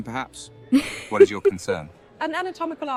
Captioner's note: Autumn chuckles